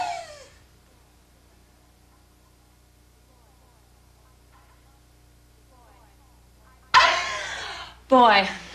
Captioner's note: screaming; laughing